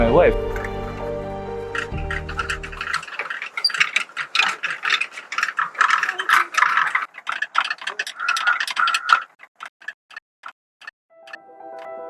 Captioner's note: prayer wheels spinning; piano music